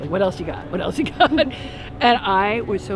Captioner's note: both laugh